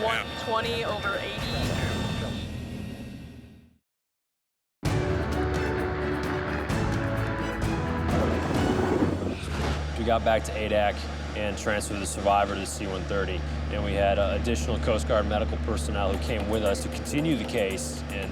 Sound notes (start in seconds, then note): 0.9 beep; 4.8 bold music; 5.1 helicopter whir